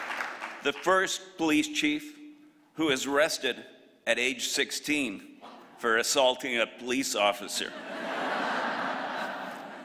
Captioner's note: applause